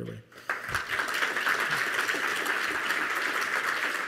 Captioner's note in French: Applaudissements